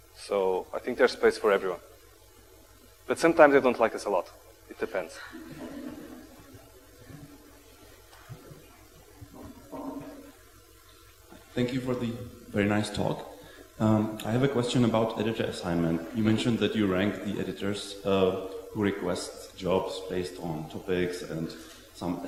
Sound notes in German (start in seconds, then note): 5.2 lachen